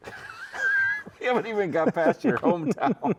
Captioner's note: both chuckling